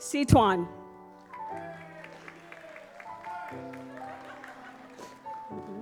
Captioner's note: audience applauds